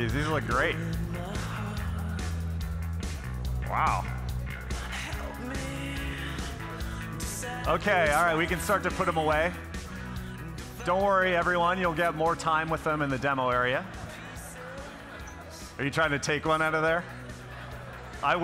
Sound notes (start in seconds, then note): 13.4 people chattering